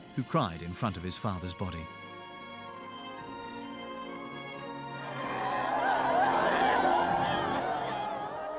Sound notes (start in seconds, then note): 4.9 crowd sobbing